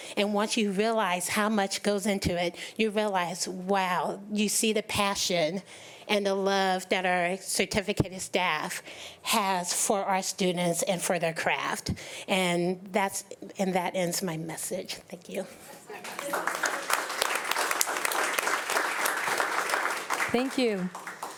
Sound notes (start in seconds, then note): 15.9 audience applauding